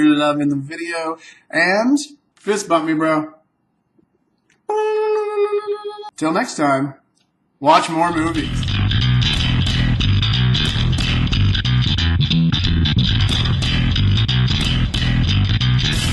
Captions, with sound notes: loving the video, and fist bump me, bro. (high pitched blurp) Until next time, watch more movies! (rock bass music)